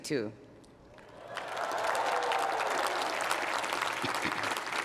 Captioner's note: applause